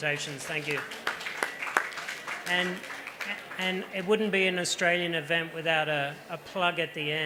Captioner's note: applause